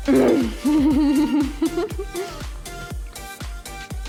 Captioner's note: laughs